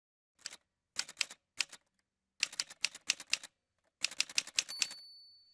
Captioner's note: typewriter sounds